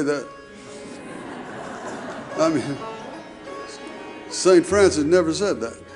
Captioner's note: audience laughing